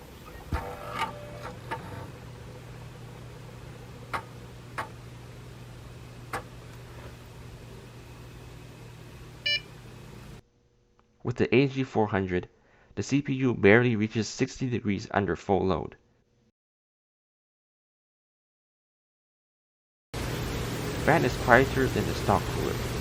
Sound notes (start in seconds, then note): 0.0 optical drive powers on; 9.4 motherboard beep